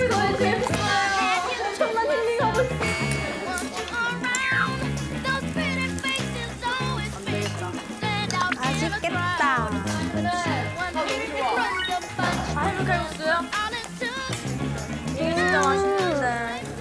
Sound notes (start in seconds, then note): 4.5 blows food again